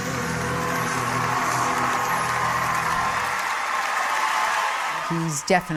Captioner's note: audience cheering